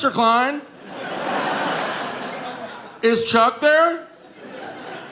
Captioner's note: audience laughing